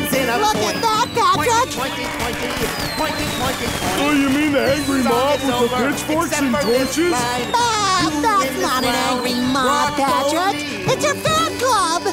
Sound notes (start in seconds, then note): 1.4 chanting; 6.2 laughing